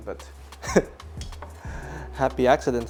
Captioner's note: chukles